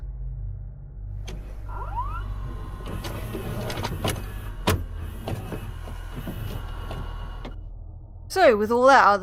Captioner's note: VHS noises